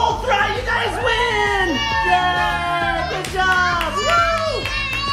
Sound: cheering

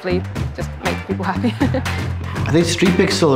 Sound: chuckling

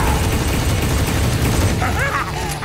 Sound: laughing

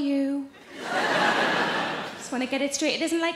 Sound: audience laughing

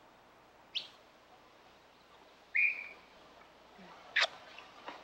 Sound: birds chirping

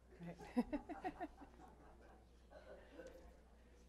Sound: laughs

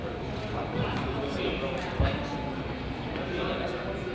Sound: crowd chatters

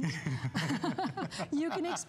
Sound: laughter

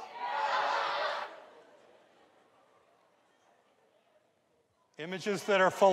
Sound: audience laughs

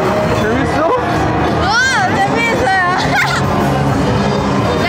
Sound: laughs

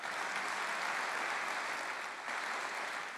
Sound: applause

